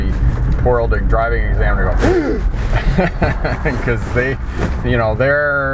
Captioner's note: deep inhalation of breakth